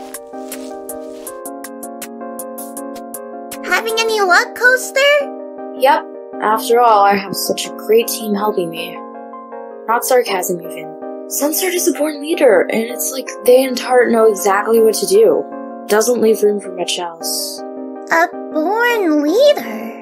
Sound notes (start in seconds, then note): none